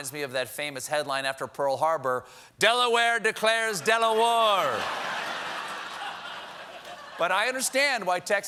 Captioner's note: laughter